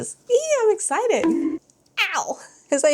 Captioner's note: bonk sound